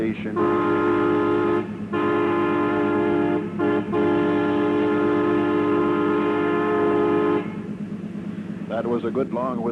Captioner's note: train Whistle